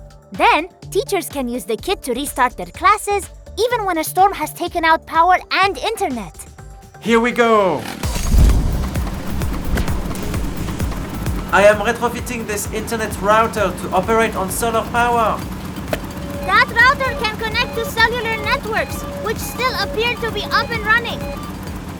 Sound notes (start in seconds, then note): 7.8 engine rumble; 9.2 upbeat music